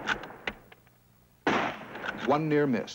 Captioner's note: bang